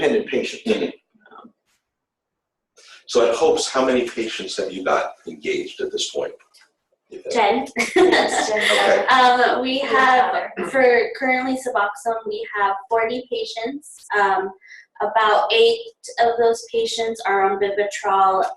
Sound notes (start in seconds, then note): 7.2 laughs